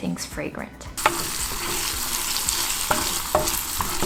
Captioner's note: oil sizzling